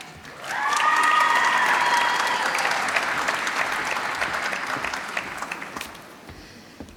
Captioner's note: applause